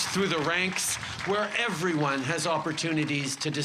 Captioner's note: applause